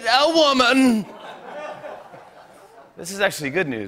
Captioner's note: laughter